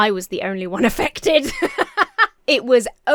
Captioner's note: laughs